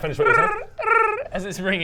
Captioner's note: brrrr brrrr